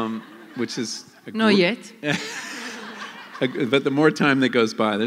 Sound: laughter

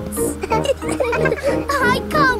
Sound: all laughing

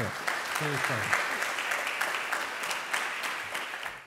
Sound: applause

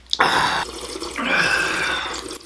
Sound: slurp

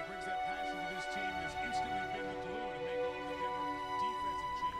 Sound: man talking on TV

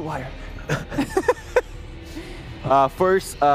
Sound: laughs

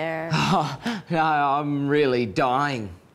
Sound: laughs

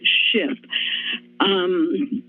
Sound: inhales

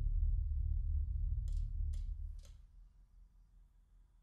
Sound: clicking sound

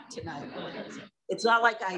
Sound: laughter

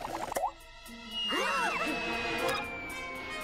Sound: shouting

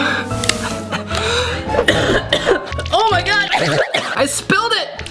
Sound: coughing

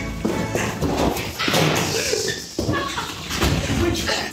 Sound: door slams shut, panting, nervous giggling

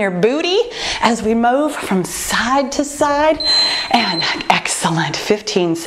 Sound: timer beeping

